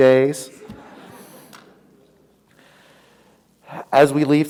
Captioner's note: audience laughs